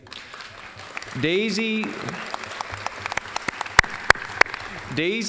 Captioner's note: applause